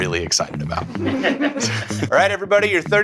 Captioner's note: laughing